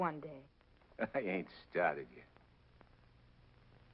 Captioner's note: chuckles